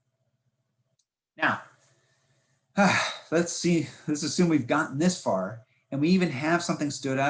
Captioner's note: sighs